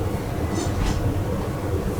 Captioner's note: metallic scrape noise